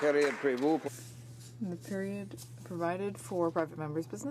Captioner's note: applause